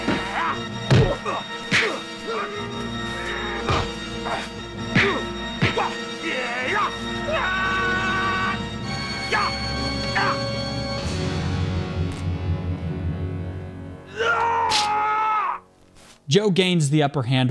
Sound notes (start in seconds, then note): 4.0 grunting